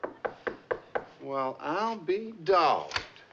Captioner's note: knocking at door